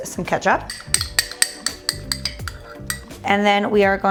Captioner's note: glass clanging